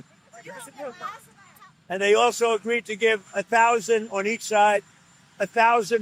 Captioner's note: reporters chattering